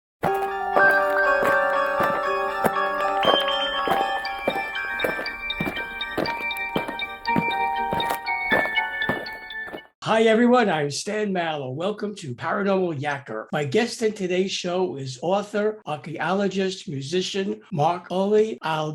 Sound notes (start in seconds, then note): 0.2 eerie music; 5.0 aliens marching